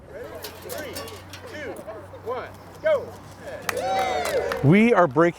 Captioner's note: group cheering